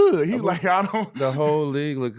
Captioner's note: laughing